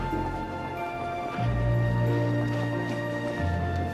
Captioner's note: none